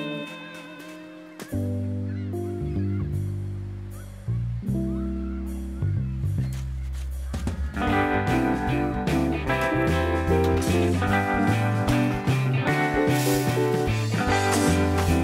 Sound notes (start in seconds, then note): none